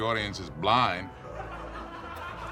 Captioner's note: audience laughs